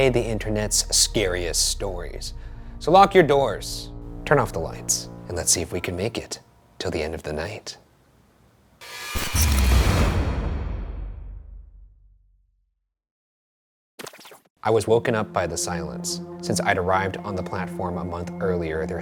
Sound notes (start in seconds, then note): 9.6 eerie music; 9.6 static hisses